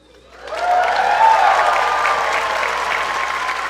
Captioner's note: applause